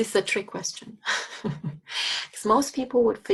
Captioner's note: instructor chuckling